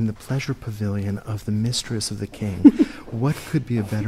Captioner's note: laughs